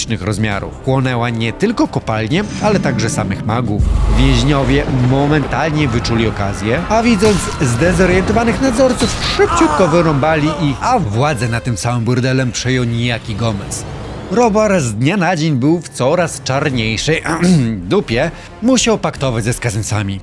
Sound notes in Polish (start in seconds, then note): 17.4 chrząk